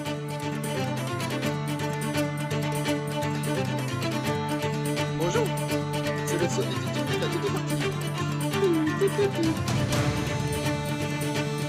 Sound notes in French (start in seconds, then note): 8.4 chantonne